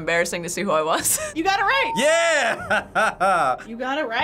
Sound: laughs

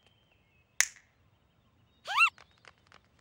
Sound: chirps

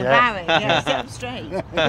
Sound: laughter

